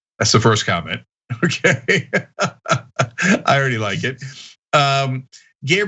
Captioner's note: laugh